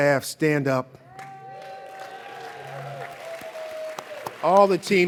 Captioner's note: audience cheers and applauds